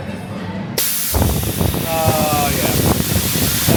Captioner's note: air hisses